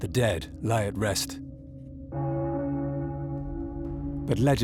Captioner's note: bell tolls